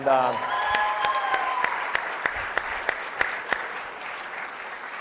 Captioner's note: audience applauding